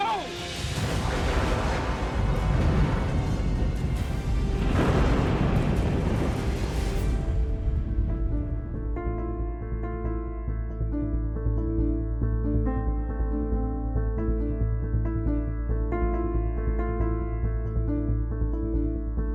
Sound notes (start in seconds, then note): 0.9 thunder rumbles; 7.6 dramatic music